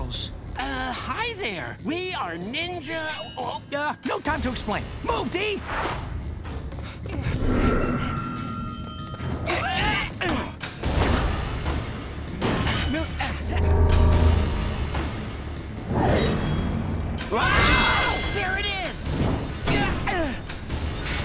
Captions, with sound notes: Uh, hi, there. We are ninja- Oh. No time to explain. Move, D! [grunting] [grunting] [screaming] There it is! Gah! Ugh!